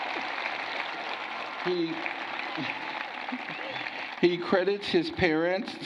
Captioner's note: cheering and applause